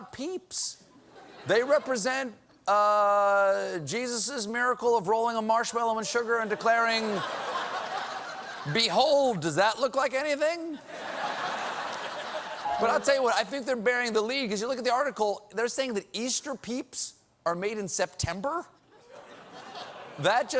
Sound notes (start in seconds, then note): 10.7 laughter